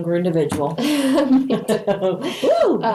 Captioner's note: laughing